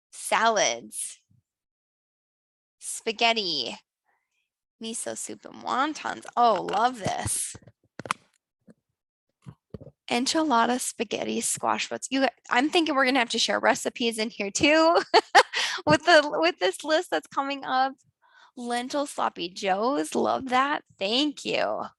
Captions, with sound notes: Salads, spaghetti. Miso soup and wontons. Oh, love this. Enchilada spaghetti squash. I'm thinking we're gonna have to share recipes in here too (laughs) with this list that's coming up. Lentil sloppy joes. Love that, thank you.